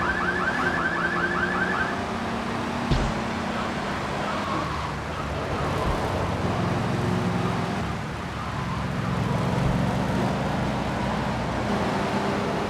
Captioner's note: sirens wailing